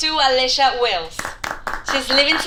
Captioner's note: patients applaud